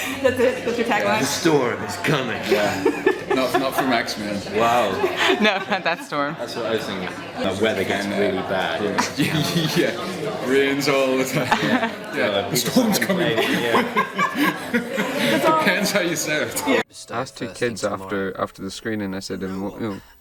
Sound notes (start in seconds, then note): 1.9 American accent; 10.9 laughs; 13.8 they laugh